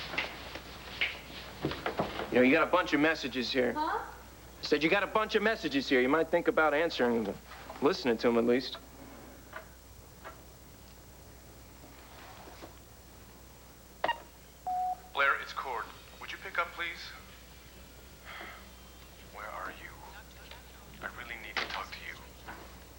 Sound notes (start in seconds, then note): 14.6 answering machine beeps